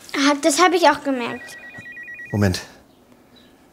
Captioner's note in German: Handyklingeln